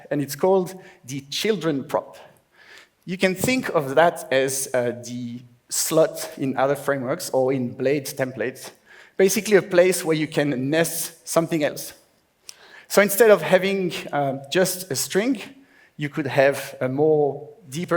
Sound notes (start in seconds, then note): none